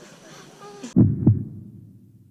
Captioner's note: heartbeat